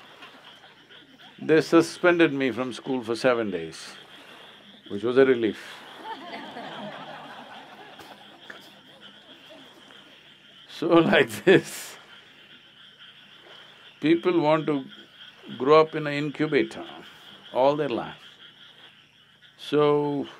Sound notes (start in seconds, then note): 0.0 laughter; 6.6 laughter